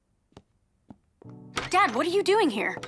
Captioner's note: knock on the door